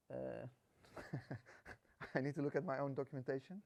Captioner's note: laughs